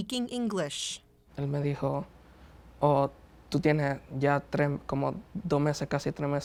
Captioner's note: speaking in foreign language